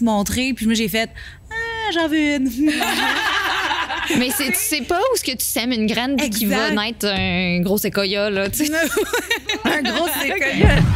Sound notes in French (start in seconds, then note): 2.6 rires; 8.6 rires